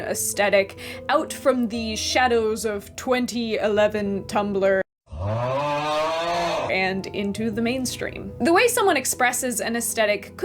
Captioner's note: groan